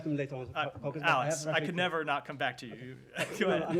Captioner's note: laughter